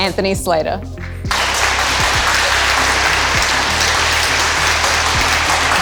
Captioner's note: audience clapping